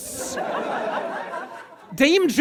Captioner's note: audience laughs